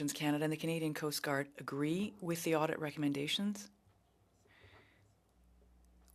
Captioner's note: speaking French